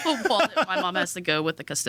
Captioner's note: laughs